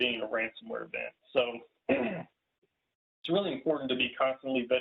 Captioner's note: clears throat